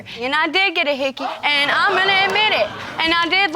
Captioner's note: audience laughing